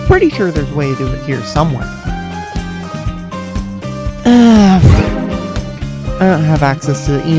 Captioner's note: violette miss sound effect